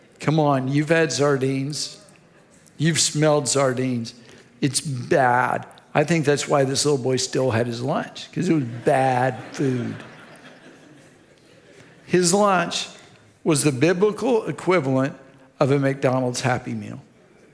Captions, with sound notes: Come on, you've had sardines. You've smelled sardines. It's bad. I think that's why this little boy still had his lunch, 'cause it was bad food. (audience laughs) His lunch was the biblical equivalent of a McDonald's Happy Meal.